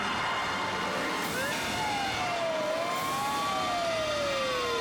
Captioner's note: sirens wailing